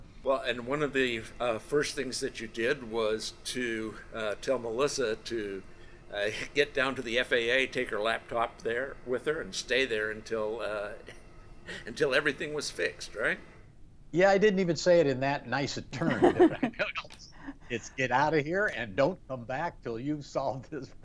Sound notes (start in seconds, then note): 16.0 laughs